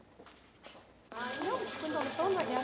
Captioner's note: murmuring; phones ringing